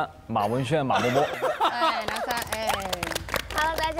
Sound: applauding loudly

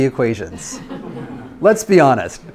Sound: students laughs

